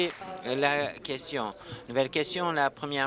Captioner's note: applause